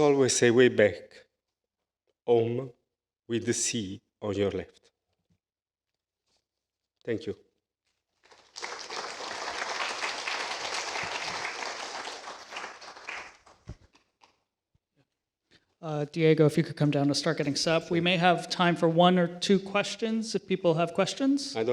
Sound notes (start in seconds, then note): 8.2 applause